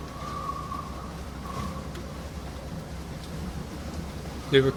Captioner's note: wind blowing